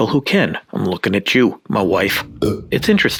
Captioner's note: burps